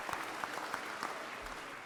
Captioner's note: audience applause